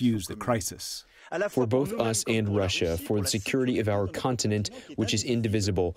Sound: through translator

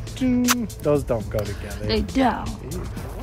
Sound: kissing sound

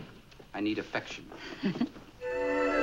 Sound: Ann laughing

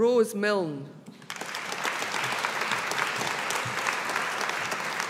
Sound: audience applauding

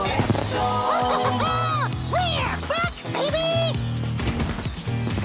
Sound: laughing

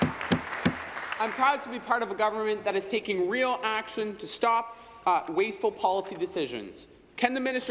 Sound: applause

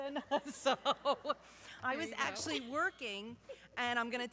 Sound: laughs

